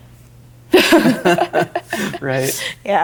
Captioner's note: laughing